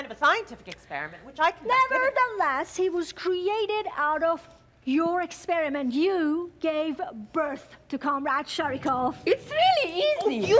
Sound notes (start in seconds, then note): none